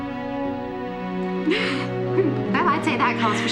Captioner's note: chuckles